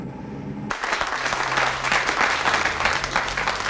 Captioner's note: applause